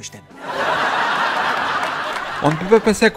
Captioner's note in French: Rires